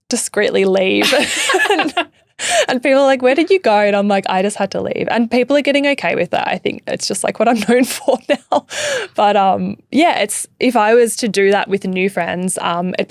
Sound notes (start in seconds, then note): 1.0 laughing; 8.0 laughing